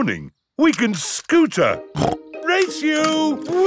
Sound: snorts

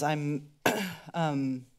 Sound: clears throat

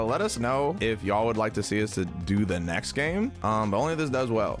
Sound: none

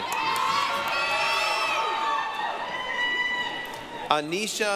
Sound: applause, cheering

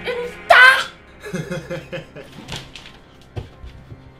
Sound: laughs

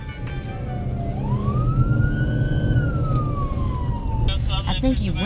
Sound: sirens

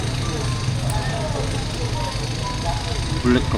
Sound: loud calm cuts and not-so-calm sounds

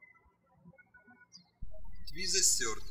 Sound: birds chirping

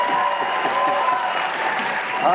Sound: cheering; applause

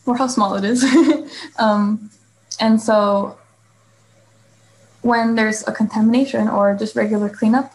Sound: laughs

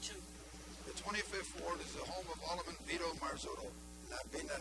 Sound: voice-over

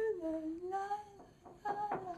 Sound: knocking

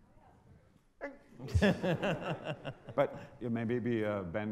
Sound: audience laughter

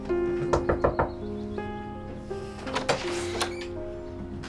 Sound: door thudding; door squeaks

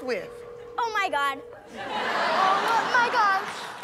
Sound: cellphone ringing

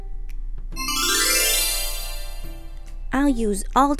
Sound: chimes tinkle

